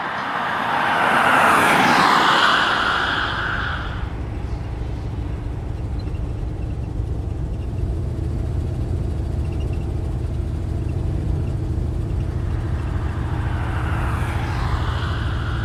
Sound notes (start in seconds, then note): 1.9 car engine zooming